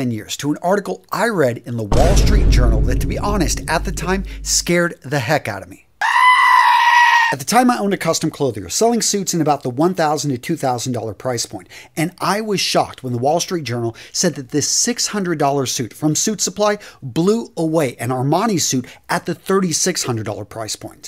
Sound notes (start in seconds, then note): 5.9 sound effect